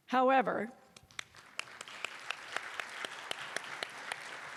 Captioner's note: applause